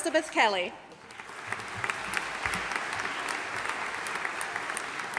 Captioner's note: audience applauding